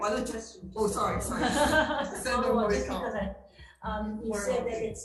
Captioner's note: laughing